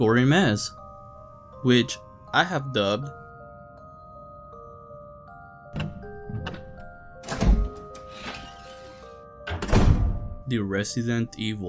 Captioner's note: Resident evil opening door animation